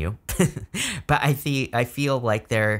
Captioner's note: narrator chuckles